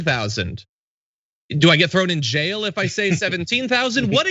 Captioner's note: laugh